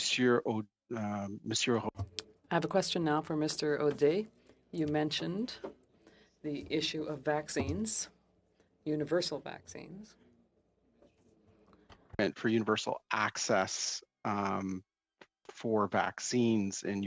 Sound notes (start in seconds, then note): 2.4 speaking French